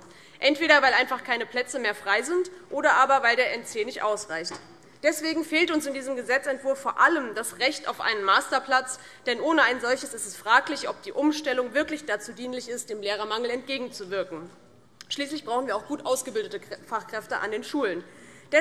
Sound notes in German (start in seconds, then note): none